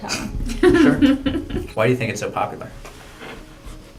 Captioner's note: laugh